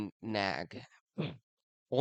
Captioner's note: clears throat